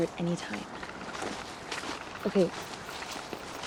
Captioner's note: footsteps crunching